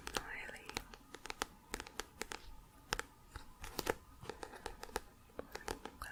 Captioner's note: tapping on book